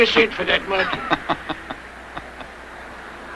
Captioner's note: laughing